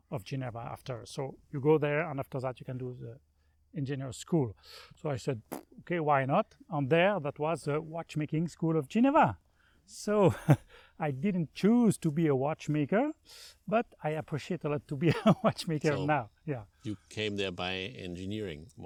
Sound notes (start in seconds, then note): 15.0 laughs